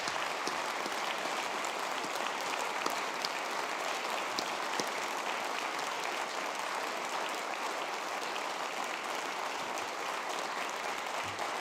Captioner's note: applause